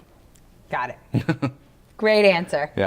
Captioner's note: laughs